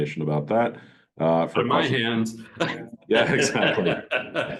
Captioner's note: laughs